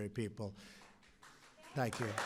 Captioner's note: applause